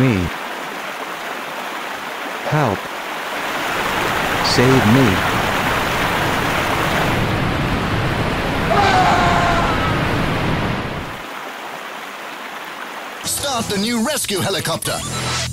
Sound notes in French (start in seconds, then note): 0.3 bruits de rivière; 6.9 bruits de cascade